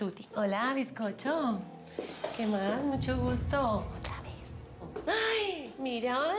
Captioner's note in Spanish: susurra